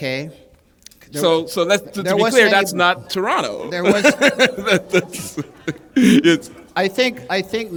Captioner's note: laughter